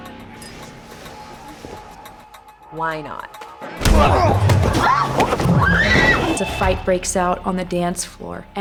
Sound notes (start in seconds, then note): 3.8 yells; 3.9 men grunting